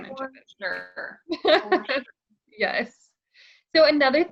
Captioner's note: laughs